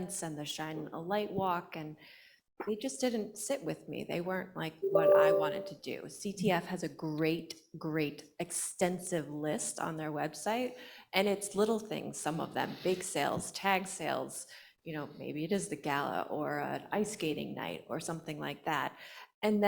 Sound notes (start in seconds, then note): none